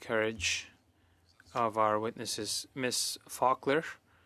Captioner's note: speaking French